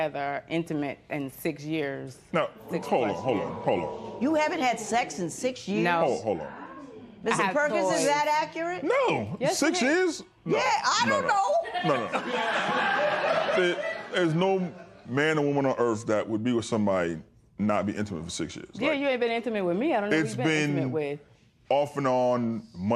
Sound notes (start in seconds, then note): 11.6 laughter